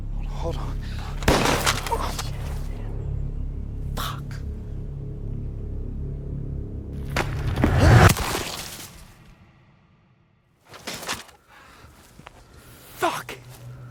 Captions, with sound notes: Hold on. (gun fires) - Fuck! (loud crack) (cries out) Fuck!